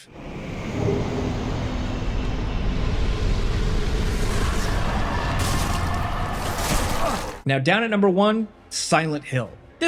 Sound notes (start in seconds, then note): 0.0 ominous music; 5.4 character grunting